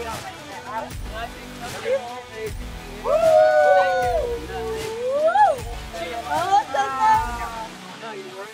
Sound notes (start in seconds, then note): 3.0 whooping